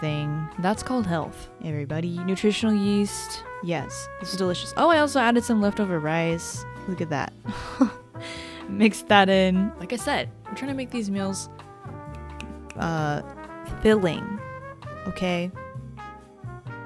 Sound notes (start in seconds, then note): 12.1 snapping